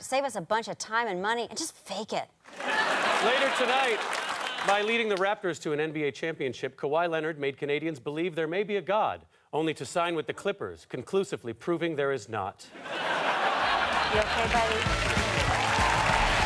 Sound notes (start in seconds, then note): 12.8 audience laughter